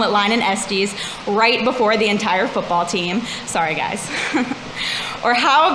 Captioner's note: laughs